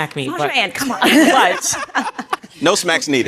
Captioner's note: audience laughing